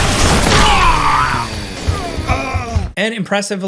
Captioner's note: chainsaw whirring; avatar grunting